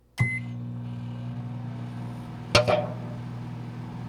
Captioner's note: microwave on